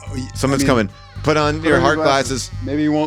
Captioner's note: walls banging; bell ringing; door creaking